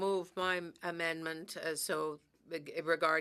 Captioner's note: speaking French